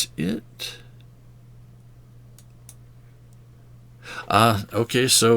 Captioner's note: silence